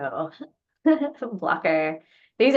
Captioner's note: laughs